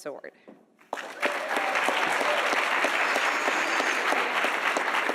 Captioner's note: audience applauding